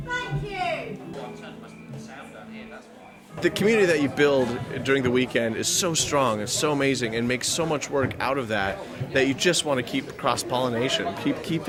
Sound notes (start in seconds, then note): none